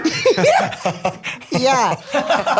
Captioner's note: all laugh